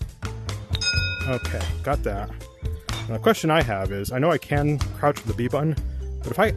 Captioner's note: ding